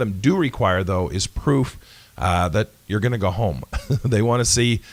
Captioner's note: laughs